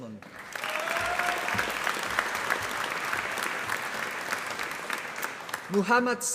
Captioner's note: applause